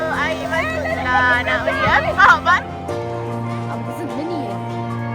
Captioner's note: speaking German